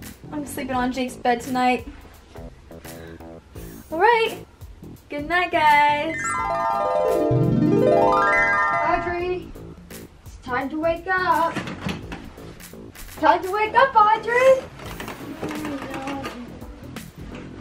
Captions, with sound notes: I'm sleeping on Jake's bed tonight. Alright, goodnight guys. (chimes) - Audrey, it's time to wake up. Time to wake up Audrey.